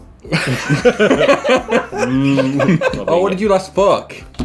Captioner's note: laughing